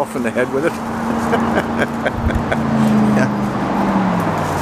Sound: chuckles

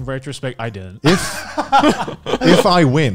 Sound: laughs

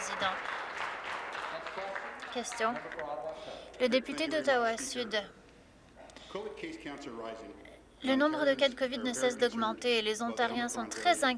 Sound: applause

